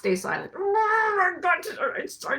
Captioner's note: grunts